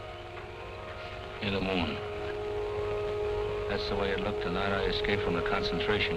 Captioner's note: non-english speech